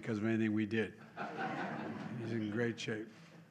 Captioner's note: laughter